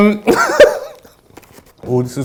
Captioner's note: laughing